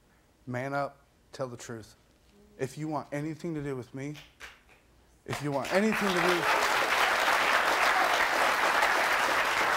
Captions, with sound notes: Man up, tell the truth. If you want anything to do with me. If you want anything to do-- (audience applauds)